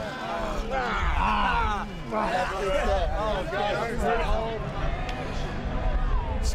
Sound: talking in unison

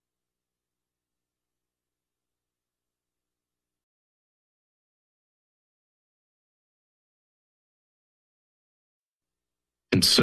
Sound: silence

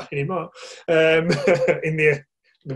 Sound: laughing

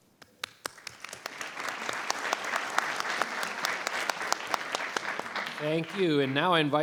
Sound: board members and audience applauding

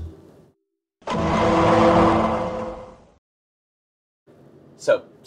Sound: law & order sound effect

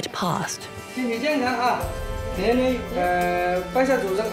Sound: speaking Chinese

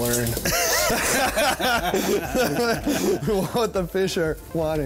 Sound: laugh

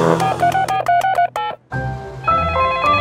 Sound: beeping; phone ringing

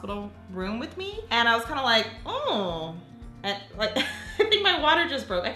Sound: laughs

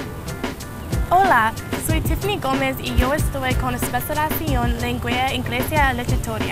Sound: women speaking in foreign language

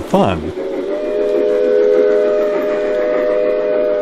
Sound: sound of a steam train whistle

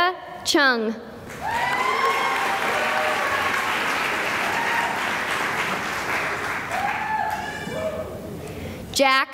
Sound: cheering and applause

